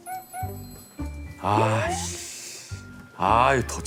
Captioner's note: sigh